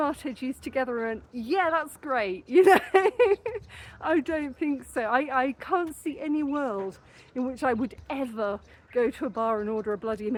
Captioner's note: laughing